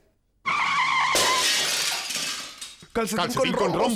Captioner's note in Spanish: Sonido de choque